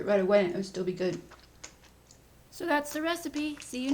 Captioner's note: chewing